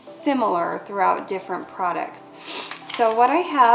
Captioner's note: rustling